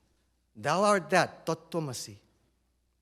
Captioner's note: non-english